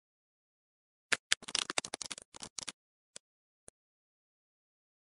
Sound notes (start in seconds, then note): 1.4 ice crackle